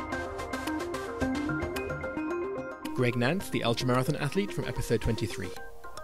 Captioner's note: voiceover